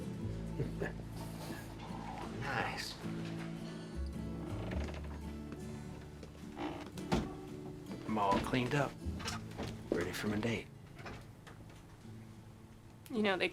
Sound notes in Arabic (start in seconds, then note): 0.5 ضحكة مكتومة; 4.4 يفتح الباب، ويغلق